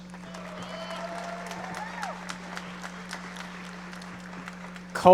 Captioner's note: audience applauding